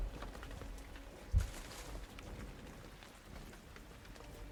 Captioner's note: rain pouring